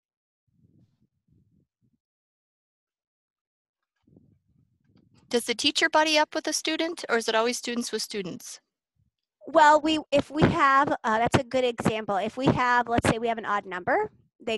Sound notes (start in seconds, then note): 0.8 silence